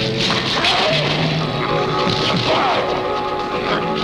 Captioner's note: snarling